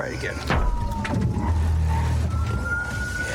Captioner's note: thuds